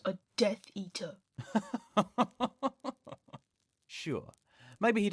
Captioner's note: Sirius laughs unpleasantly